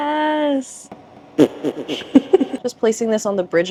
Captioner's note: fart noise